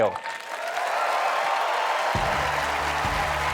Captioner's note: applause